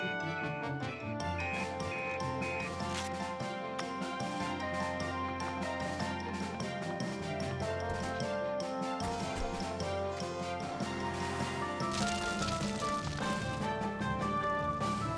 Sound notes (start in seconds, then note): 1.5 beeping; 4.0 sirens Blaring; 11.9 fire Crackles